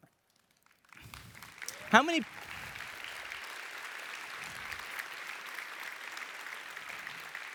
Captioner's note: applause